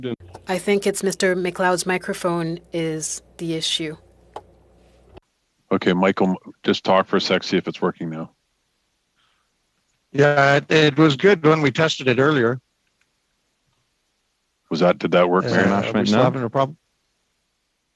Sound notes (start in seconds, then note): 3.1 speaking French